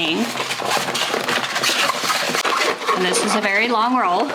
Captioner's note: transfer tape rustling